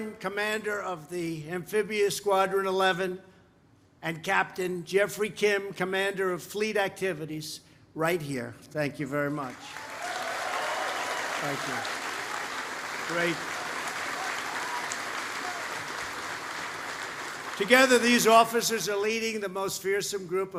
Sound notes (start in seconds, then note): 10.1 applause